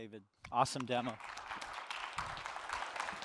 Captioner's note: applause